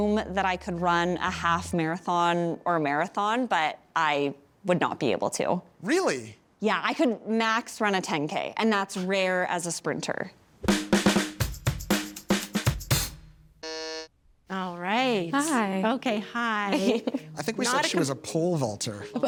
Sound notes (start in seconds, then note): 11.4 upbeat music; 13.6 buzzer buzzes